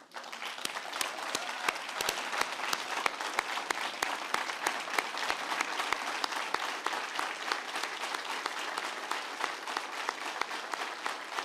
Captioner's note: applause